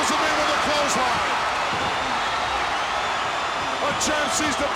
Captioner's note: audience cheers